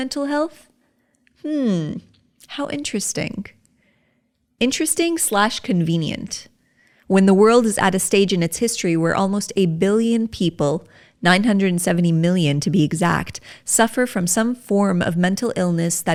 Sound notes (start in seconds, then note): 1.0 sarcastically